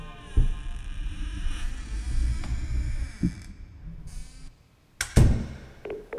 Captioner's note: distant door opens and shuts